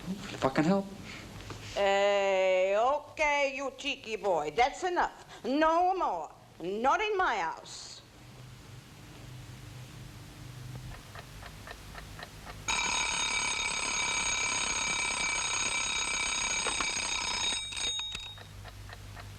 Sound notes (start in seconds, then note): 10.7 clock ticking; 12.6 alarm ringing